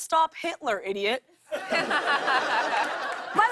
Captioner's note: laughter